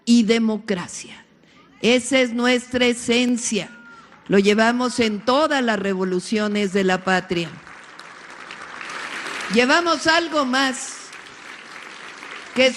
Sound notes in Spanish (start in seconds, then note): 6.7 aplausos